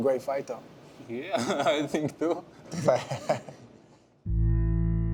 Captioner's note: laughs